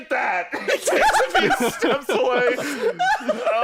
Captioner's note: laughing